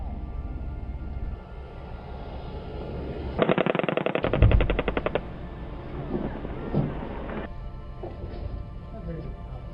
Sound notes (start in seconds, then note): 3.4 guns banging